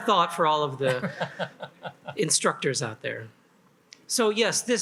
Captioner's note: laughs